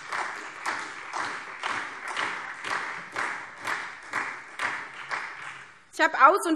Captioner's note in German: Beifall SPD und vereinzelt Freie Demokraten